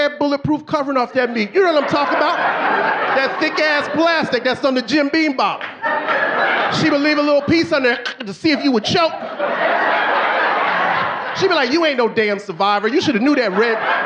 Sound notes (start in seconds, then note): 3.7 audience laughing; 6.7 audience laughing; 7.9 chokes; 10.7 audience laughing